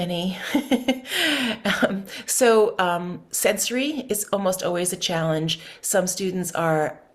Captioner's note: laughs